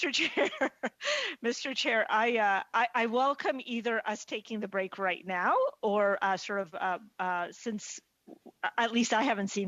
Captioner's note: laughter